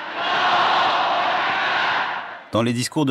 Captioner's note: crowd chanting slogan